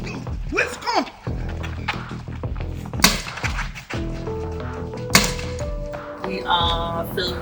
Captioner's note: gunfire